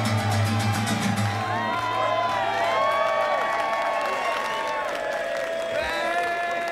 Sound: cheering

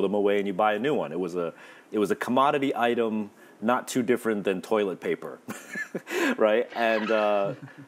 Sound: laughs

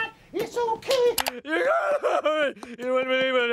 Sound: Homer shouting incoherently

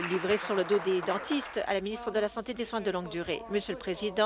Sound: applause

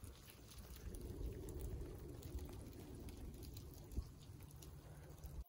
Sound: sound of the thunder rumbling

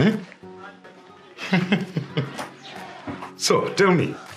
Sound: chuckles

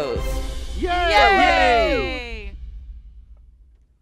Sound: cheering in unison

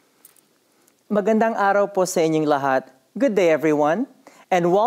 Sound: non-english speech

